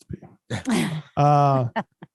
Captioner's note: laughter